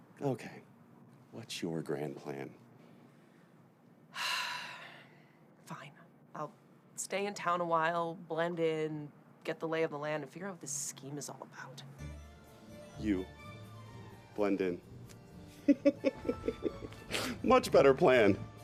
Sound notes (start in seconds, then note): 4.3 Ava exhales; 12.0 orchestral music begins; 15.6 Gabe laughs